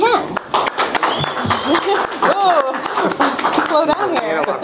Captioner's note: cheering and applause